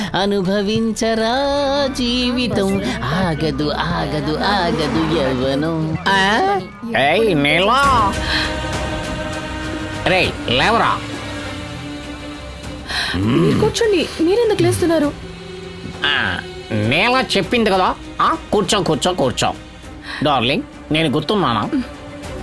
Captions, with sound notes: "Enjoy the life, adolescence can't wait." Hey Neela. Get up! You sit. Why are you standing? - (Grunts) Neela has said, sit. Darling, do you remember me?